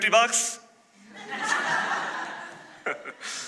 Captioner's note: laughter